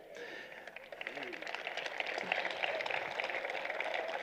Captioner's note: applause